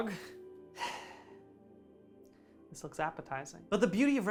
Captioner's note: sigh